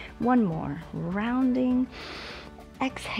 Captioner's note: inhales